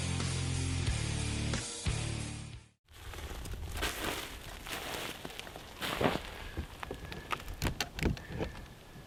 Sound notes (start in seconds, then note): 2.9 snow crunching